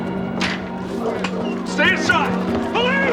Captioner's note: dogs barking